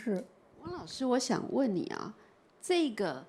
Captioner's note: Mandarin